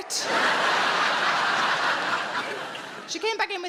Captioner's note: audience laughing